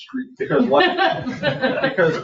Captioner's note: people laugh